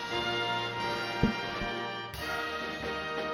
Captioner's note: applause